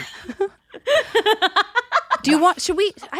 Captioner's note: laughing